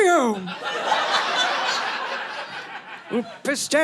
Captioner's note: audience laughing